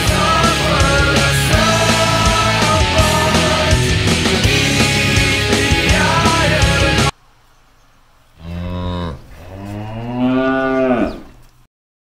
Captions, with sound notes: *metal music* "I suffer the serpent... *cows moo*